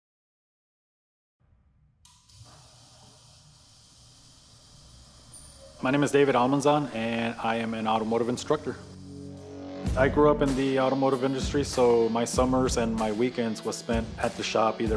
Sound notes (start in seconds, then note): 1.9 garage door being opened